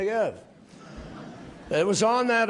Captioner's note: laughter